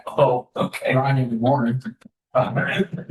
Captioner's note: laughter